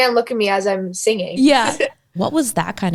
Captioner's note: chuckling